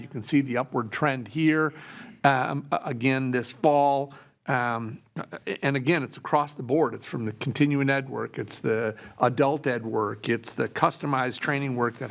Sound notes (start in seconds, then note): none